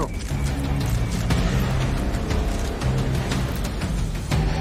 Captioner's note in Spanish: Clic de las cámaras